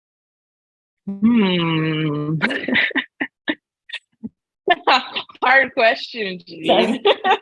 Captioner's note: laughs